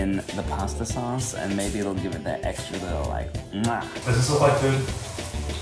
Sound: smacks

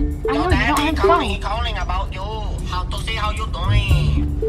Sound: ringtone

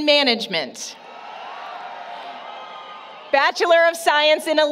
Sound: applause, Cheering

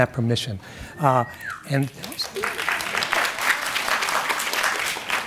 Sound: audience claps and whistles

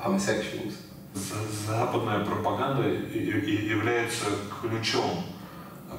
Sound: speaking in foreign language

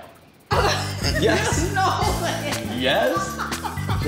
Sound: laughs

